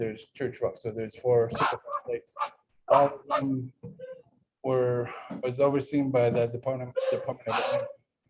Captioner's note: dog barking